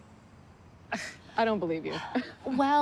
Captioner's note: scoffs